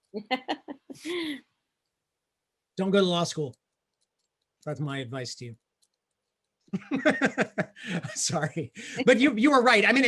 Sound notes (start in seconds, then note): 0.2 laughing; 6.8 laughing